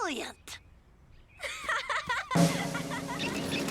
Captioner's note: Lizbeth laughs; snare drum rolls